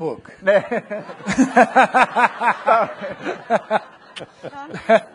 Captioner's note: people laughing